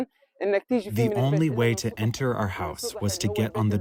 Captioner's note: through translator